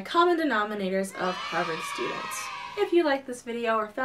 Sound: cheering

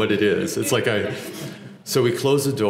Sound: laugh

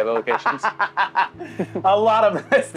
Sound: laughs

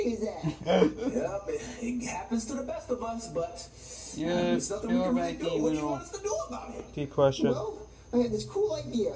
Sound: chuckles

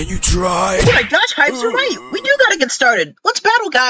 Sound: hives groaning

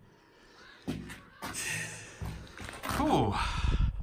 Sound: sigh

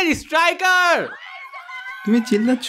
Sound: background scream

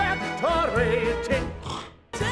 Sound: spits

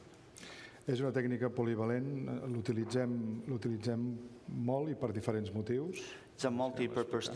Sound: speaking catalan

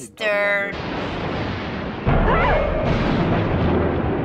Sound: thunder crashing

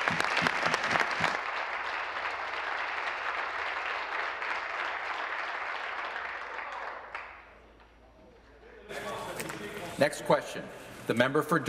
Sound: applause

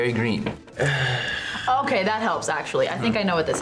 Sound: sighs

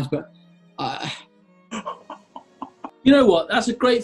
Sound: stifling giggling

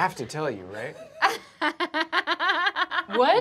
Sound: laughter

